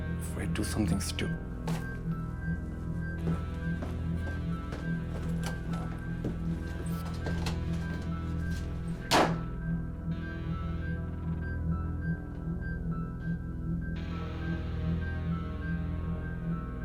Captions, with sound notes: before I do something stupid. (suspenseful music continues) (footsteps thumping) (door rattling) (door thumping)